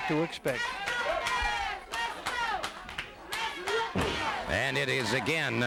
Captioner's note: crowd chanting